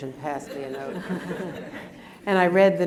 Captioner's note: laughter